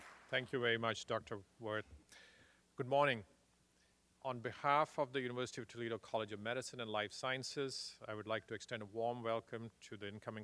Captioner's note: applause